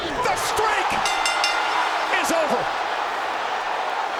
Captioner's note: bell ringing; crowd clamoring